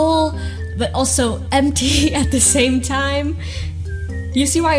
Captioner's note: laughs